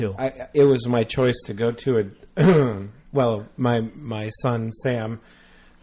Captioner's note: clears throat